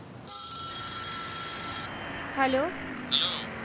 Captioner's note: phone ringing